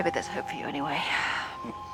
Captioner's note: quiet, steady beeping